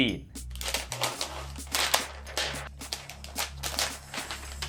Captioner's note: plastic rustling